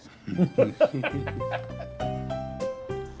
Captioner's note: all laughing; upbeat music